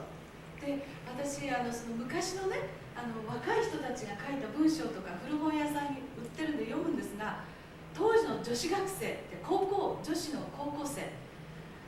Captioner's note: speaking Japanes